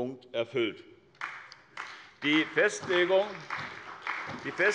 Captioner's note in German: Beifall bei der SPD